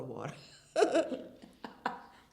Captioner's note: laughter